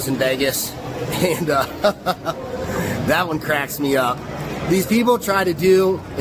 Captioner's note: laughs